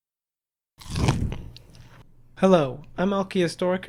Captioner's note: crunch